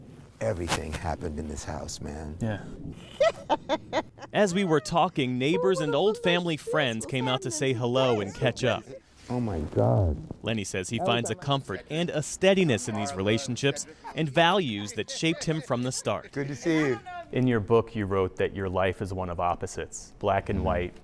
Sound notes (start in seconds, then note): 5.8 laughter